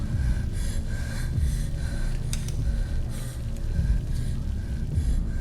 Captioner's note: breathes heavily